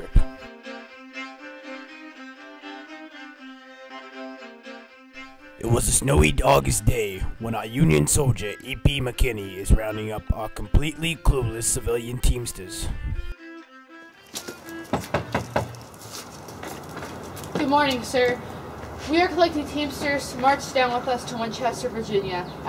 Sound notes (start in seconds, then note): 14.9 knocks on door